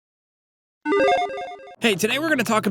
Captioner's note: electronic beeping